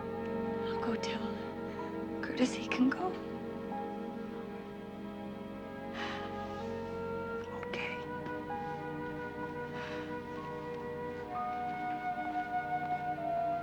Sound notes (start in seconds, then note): 6.0 sighs; 9.7 sighs; 10.7 adagietto music